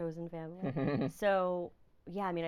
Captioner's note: laughing